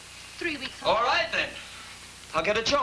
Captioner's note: john, shouting